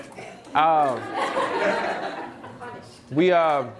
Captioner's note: audience laughs